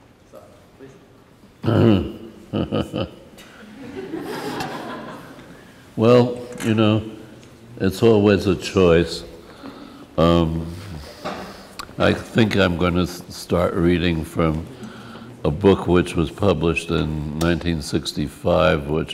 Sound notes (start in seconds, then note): 1.6 snickers; 3.8 laughs